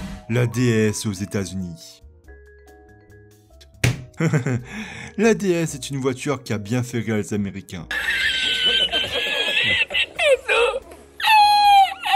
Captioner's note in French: clap